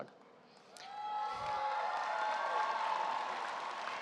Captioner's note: audience cheering